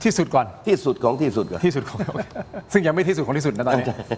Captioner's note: laughter